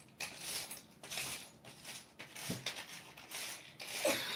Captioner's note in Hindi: नाक से की जाने वाली आवाज़